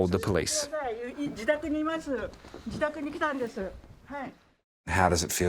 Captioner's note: grandma speaking Japanese